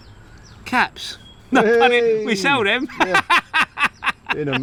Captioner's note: LAughing